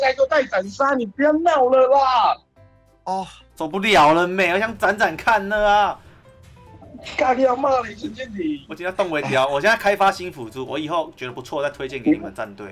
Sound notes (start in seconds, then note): 3.1 sigh